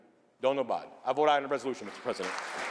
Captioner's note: applause